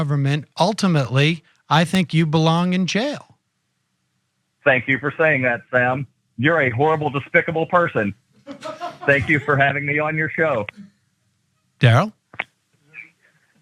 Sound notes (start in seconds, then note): 8.5 laugh; 12.8 laugh